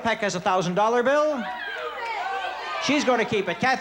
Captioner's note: crowd shouting